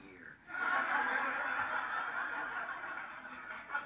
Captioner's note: canned generic laughter